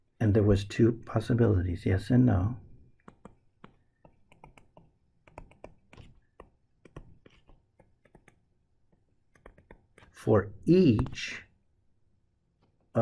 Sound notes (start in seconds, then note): 2.5 tapping Sounds